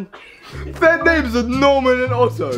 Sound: laughs

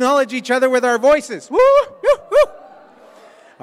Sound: cheers

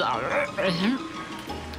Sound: gags

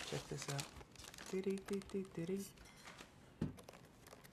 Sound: humming

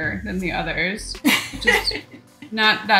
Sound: laughs loudly

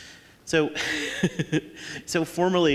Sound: laughing

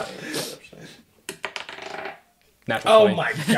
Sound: general laughter

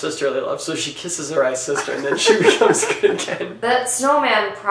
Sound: both laughing

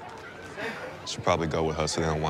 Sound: sighs

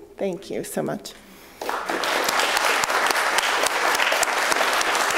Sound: applause

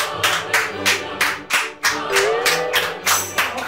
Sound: round of applause

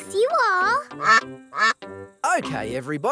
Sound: quacking

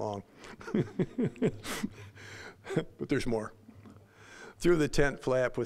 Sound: laughing

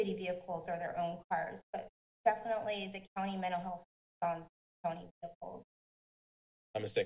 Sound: speaks faintly

